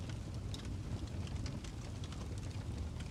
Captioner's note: ambient Campfire Sounds